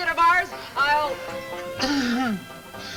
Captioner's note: speaker trails off